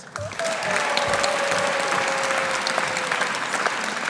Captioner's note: audience applauding